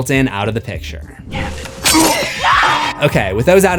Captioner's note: screams